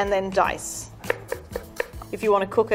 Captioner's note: knife tapping against wooden board